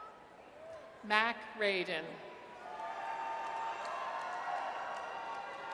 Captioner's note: audience cheers